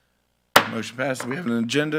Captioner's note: gavel clacks